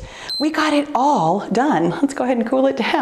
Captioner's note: timer beeps